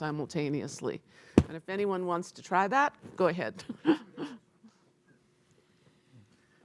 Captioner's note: laughs